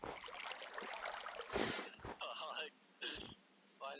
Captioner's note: chuckles